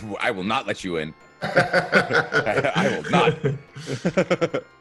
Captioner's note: laugh